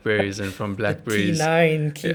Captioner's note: laugh